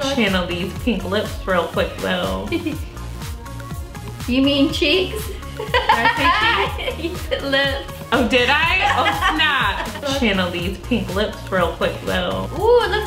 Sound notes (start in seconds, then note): 5.1 giggles